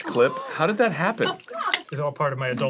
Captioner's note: dan making wet sounds; crew gasping